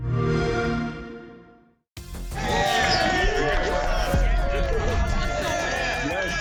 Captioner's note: audience cheering